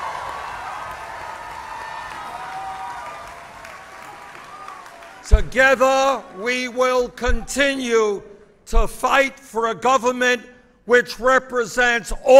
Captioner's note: applause